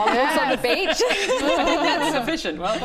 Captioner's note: relieved giggles